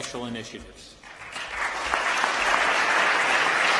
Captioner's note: applause